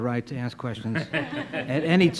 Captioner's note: panel laughs